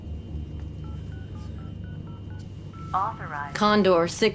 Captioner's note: phone beeping